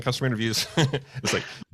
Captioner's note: laughs